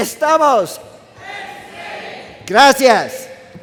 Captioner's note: crowd